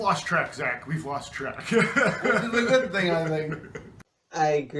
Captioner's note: laughs